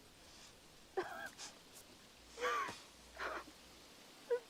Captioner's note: both giggling